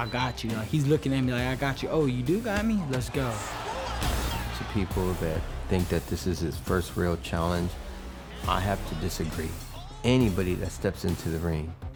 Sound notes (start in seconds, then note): 2.8 cheering